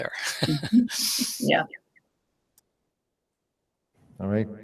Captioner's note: laughing